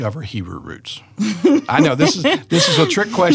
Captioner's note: laughs